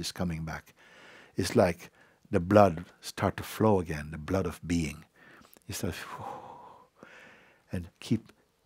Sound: exhales; exhales

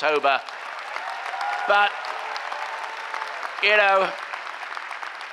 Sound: cheering applause

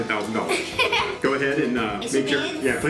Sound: laughing

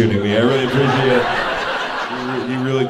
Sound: audience laughing

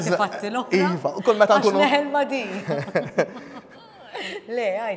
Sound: both chuckle

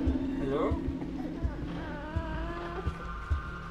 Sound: baby crying

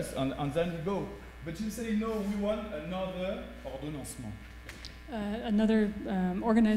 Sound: speaking french

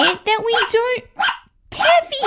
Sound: bark! Bark!

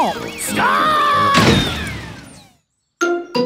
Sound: thuds

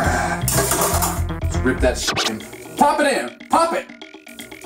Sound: whicka whicka

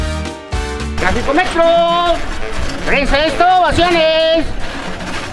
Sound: screaming selling newspaper

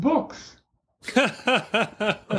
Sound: laughter

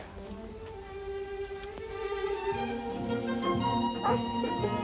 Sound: soft music; Shep barking

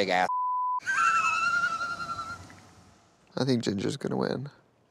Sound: laughs

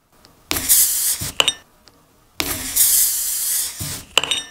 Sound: air hissing

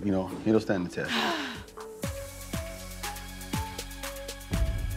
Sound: sighs

